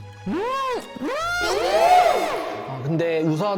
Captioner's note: fast-forward sound effect intensifies 🎵